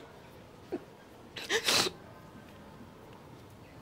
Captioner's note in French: sanglot